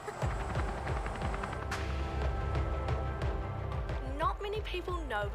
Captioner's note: helicopter blades whirl